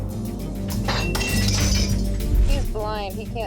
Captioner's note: glass breaking